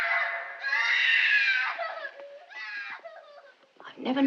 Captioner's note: screaming continues